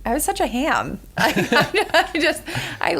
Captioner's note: laughter